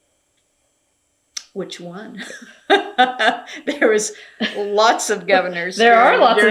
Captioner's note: laughs